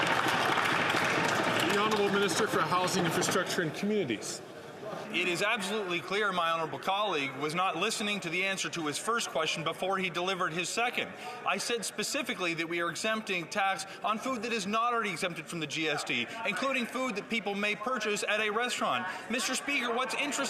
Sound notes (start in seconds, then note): 2.0 some Applause